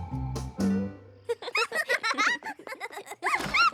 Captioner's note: laughter